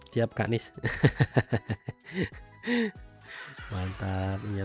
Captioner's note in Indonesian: tertawa; terkesiap